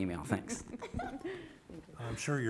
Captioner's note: everyone laughing